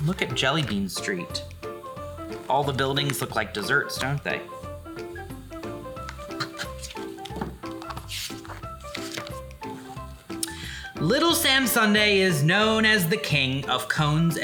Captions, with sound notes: Look at Jellybean Street. All the buildings look like desserts, don't they? (page rustles) "Little Sam Sundae is known as the king of cones